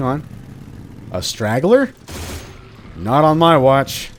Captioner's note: 30 Cal pew pew